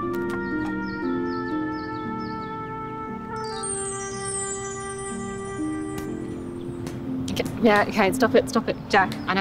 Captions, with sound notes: (twinkling sound) - Yeah, okay, stop it, stop it, Jack.